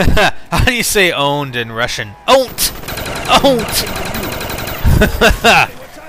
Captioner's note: laughs